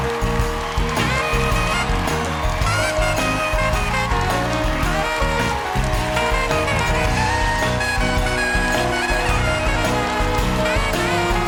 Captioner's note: applause